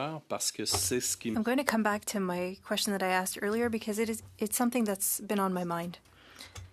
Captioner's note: speaking French